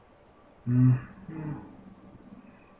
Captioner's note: attempts to imitate birdsong